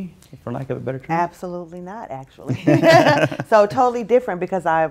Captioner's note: laughs